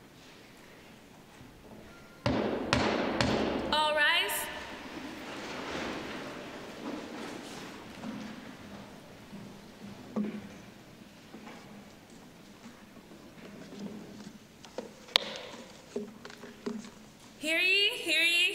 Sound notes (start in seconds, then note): 2.2 sounding gavel